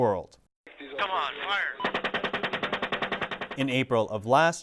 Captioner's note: rapid firing